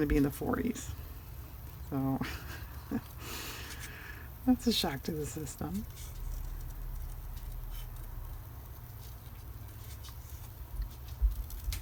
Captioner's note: laughs